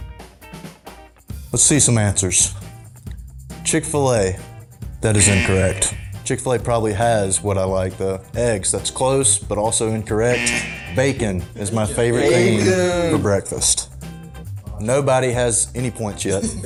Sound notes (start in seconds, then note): 5.1 buzzer; 10.2 buzzer